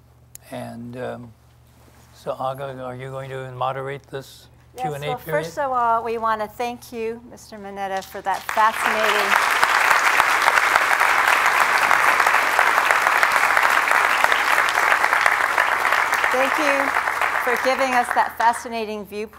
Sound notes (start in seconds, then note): 8.9 applause